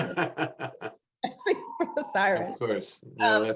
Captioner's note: laughs